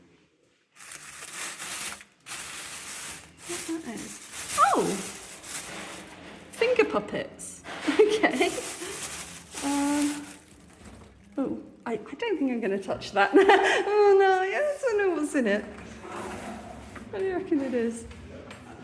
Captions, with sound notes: [bag rustling] Wonder what that is? Oh, finger puppets. Okay. Um... oh. I don't think I'm going to touch that. [nervous laugh] Um, no... I know what's in it? What do you reckon it is?